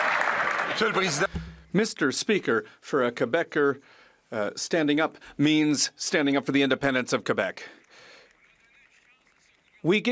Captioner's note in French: applaudissements